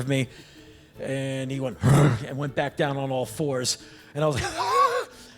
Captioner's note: growl